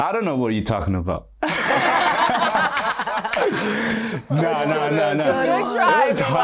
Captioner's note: everyone laughs